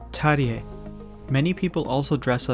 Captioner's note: speaking in Korean language